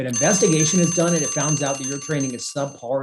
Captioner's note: alarm ringing